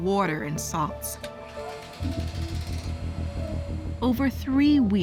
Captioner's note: whirring